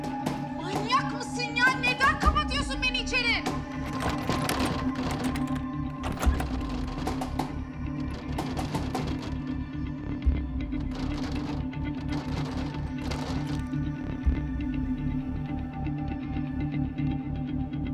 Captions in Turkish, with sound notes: Manyak mısın ya, neden kapatıyorsun beni içeri? (Kapı zorlama sesi) (Kapı vurma sesi) (Müzik - Gerilim)